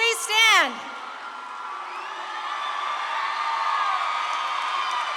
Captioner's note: audience claps and cheers